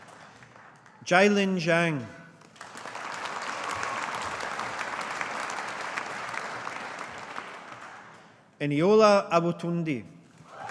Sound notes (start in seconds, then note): 2.4 audience applauding; 10.5 audience applauding